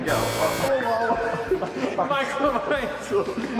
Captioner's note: buzzer sound effect